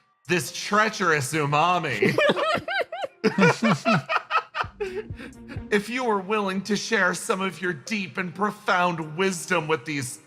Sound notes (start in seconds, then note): 2.0 laughs